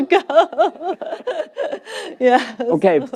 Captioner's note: laughter